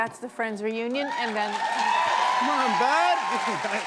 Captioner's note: cheers and applause